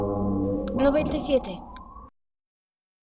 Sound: man speaking portuguese; boy speaking portuguese

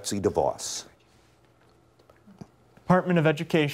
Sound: whispering

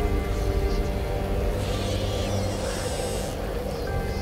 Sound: creaking door

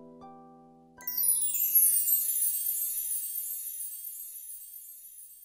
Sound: sound of chimes

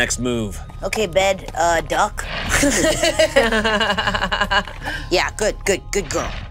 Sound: laughing

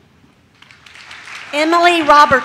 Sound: audience claps

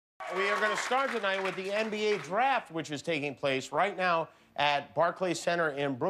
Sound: cheers and applause

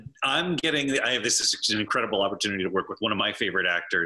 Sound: laughs

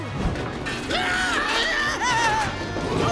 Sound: screaming

